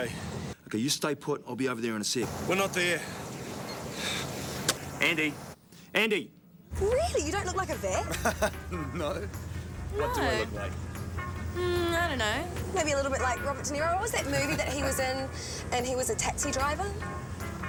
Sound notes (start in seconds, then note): 7.9 chuckles